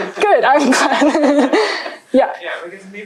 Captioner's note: laughter